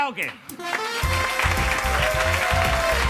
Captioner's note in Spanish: Aplausos